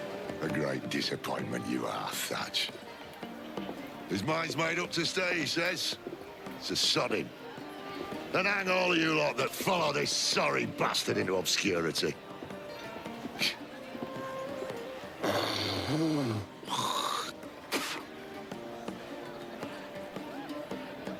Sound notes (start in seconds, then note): 15.2 spits